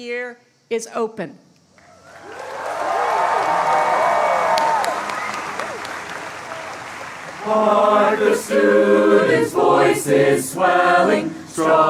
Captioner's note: applause